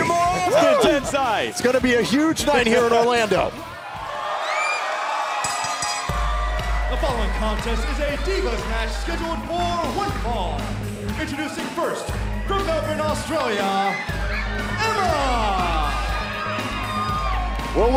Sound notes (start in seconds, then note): 7.7 crowd cheering; 8.5 bell ringing